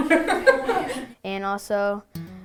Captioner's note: laughing